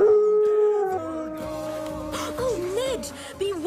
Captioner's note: dog howls